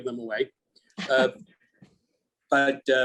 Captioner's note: laughs